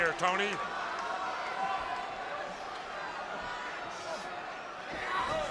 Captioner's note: spectators cheering